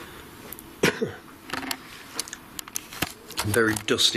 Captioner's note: coughs